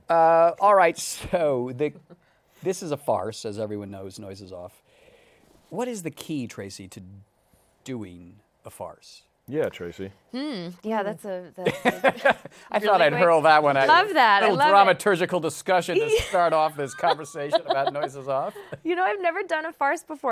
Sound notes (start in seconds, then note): 12.2 laughs